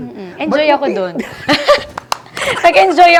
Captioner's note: laughs